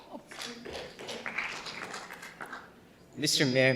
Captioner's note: audience applauding